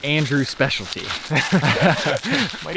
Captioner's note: both laugh